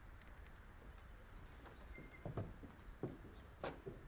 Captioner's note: door creaking